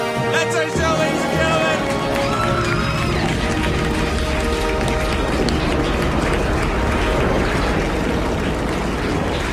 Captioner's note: audience and cast laughter; cheering and clapping from the crowd